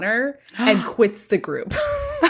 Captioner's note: gasps